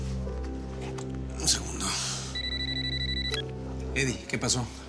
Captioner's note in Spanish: suena el celular